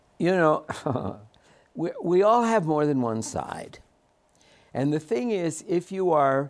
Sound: laughs

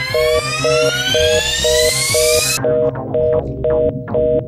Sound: phone busy tone

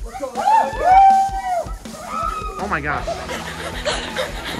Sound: people shouting; heavy panting

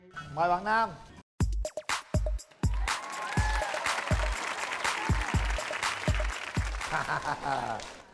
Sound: applause

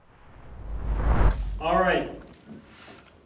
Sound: screen whooshes

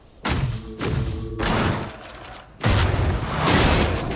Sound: guns firing

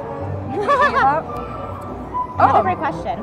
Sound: laughs

